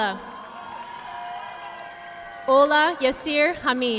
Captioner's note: audience clapping